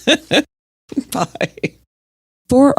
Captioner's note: laughs